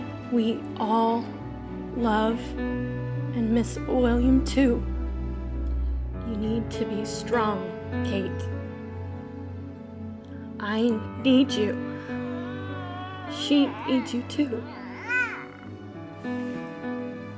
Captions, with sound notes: - We all love and miss William too. You need to be a strong, Kate. I need you. She needs you too. (baby crying)